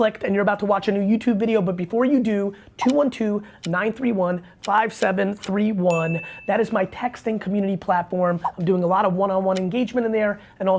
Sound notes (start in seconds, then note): 5.9 bell rings